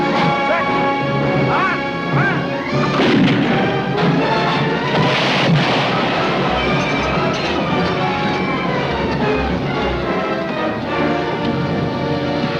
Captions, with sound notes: - Set. - Fire. - Fire. (cannon booming) (explosion)